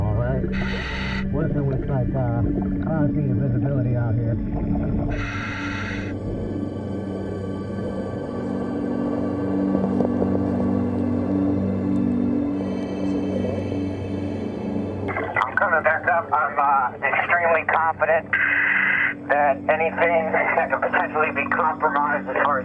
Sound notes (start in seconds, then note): 5.1 underwater breathing; 5.2 suspenseful music